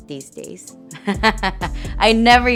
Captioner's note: laughs